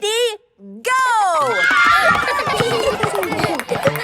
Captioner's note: kids screaming; laughter